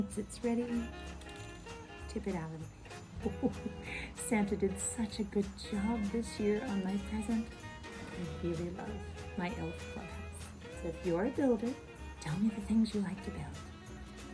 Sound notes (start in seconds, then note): 3.2 ho-ho-ho chuckles